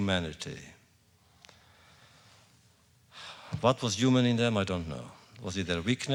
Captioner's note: sighs